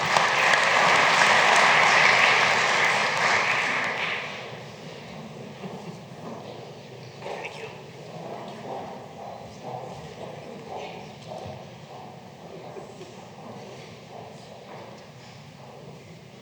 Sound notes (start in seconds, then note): 0.0 applause